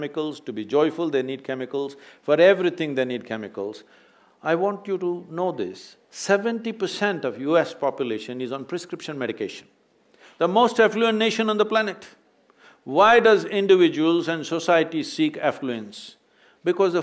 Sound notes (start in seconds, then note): none